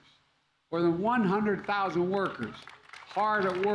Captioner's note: applause